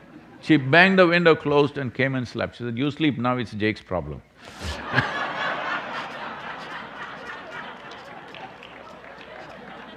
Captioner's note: laughter